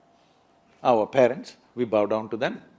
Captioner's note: none